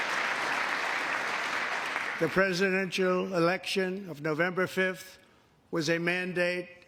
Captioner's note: applause